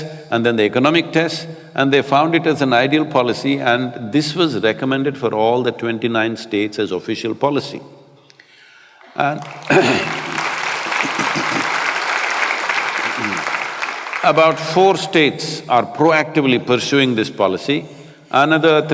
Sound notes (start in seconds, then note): 12.8 applause